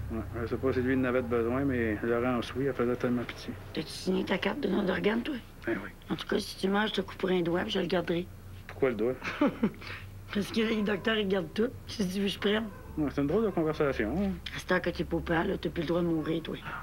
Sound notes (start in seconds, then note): 9.2 Rire